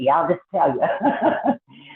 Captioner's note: laughs